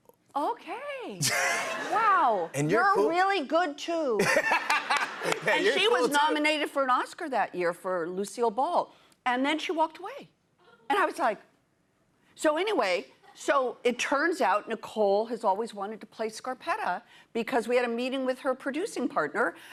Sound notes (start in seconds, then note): 4.2 laughter